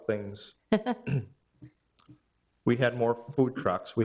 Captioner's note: laughing